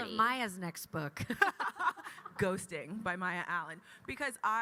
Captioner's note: laughs